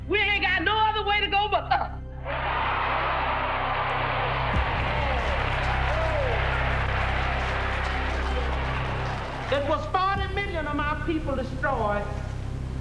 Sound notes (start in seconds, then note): 2.2 cheering